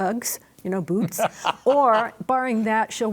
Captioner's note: panelists laughing